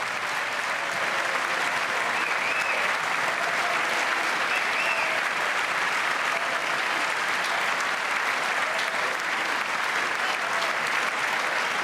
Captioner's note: applause